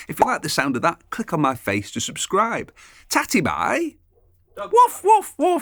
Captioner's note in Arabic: نباح الكلب